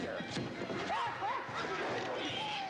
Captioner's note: yells